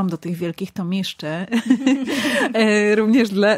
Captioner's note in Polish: śmiech